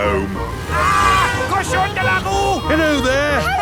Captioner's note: yells